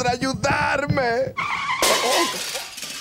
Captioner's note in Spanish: Sonido de choque